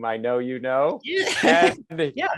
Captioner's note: laughter